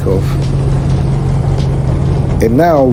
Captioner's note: helicopter whirring